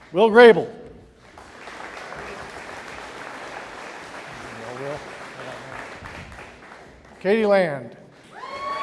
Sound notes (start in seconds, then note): 1.2 audience applauding